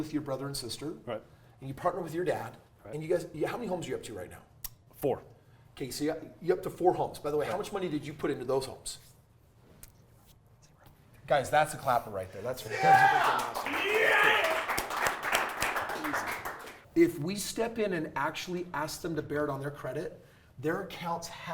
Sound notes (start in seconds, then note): 12.7 crowd Applauding